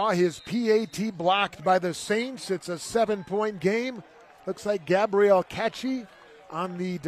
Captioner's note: applause